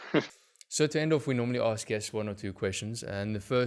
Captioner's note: laugh